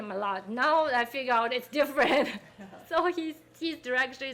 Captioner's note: laughing